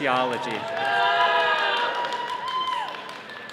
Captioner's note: all cheering